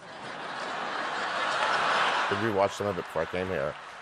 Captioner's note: laughter